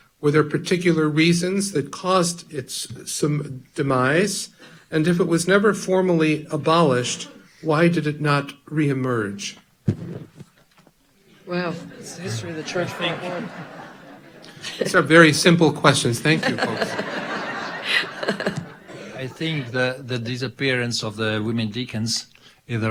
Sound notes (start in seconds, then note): 12.9 audience laughing; 17.0 audience laughing